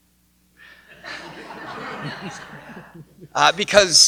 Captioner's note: laughter